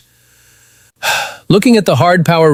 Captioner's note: sighs